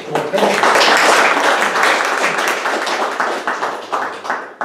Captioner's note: applause